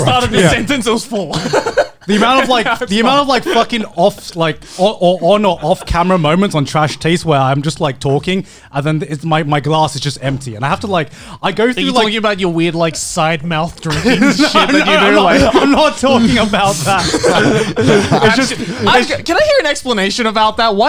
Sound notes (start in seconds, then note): 13.8 laughing